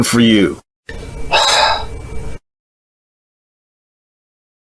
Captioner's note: Sean sighs